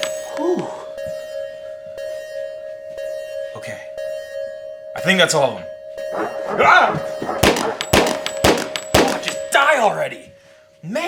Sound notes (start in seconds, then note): 0.1 alarm ringing; 6.0 dog barking; 7.2 gunshots exploding